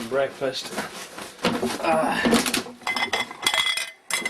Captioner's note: fumbling sounds